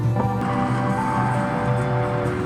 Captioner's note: crowd chattering